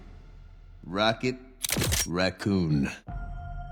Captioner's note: gun cocks